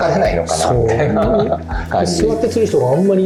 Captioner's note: laughs